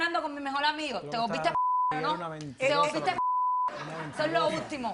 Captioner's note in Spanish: Bip